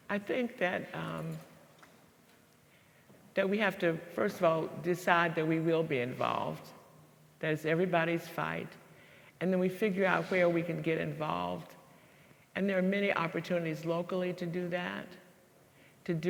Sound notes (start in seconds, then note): none